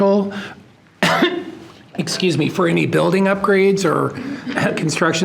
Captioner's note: coughs